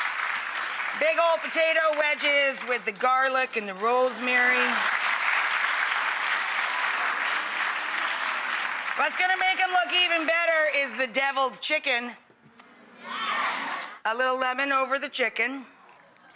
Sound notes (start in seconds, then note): 5.0 applause